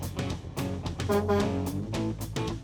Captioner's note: honk honk